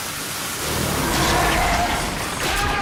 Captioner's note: roaring